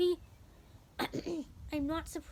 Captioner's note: clears throat